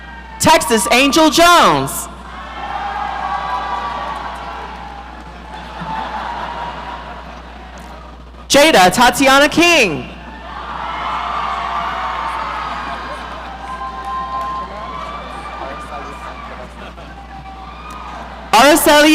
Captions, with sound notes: Texas Angel Jones. (audience cheering) Jada Tatiana King. (audience cheering)